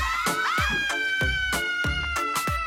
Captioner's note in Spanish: Grito